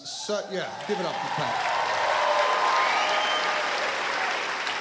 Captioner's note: cheering, applause